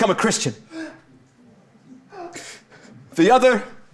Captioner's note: Bassanio sobbingly panting